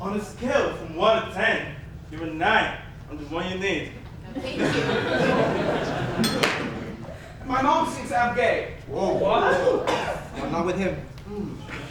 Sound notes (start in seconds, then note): 6.1 ding